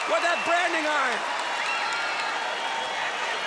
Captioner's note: crowd cheering